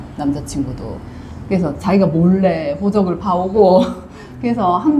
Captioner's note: laughs